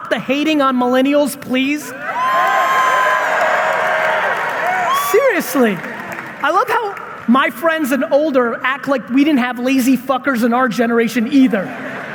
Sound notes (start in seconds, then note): 2.0 audience members cheering